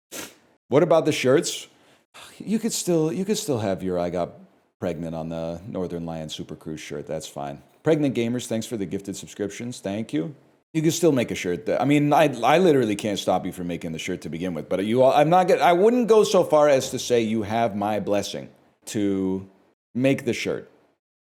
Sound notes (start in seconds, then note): 2.4 sigh